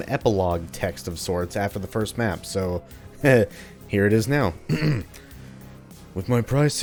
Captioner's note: clears throat